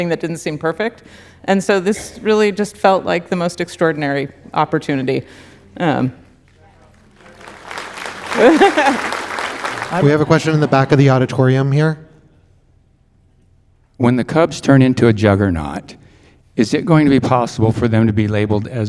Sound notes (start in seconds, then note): 6.8 audience applauding